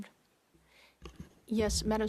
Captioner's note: speaking French